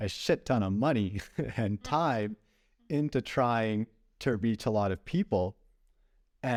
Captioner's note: laughter